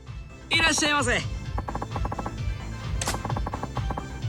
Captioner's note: foreign language